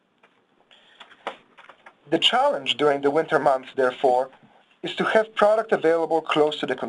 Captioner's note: pages turning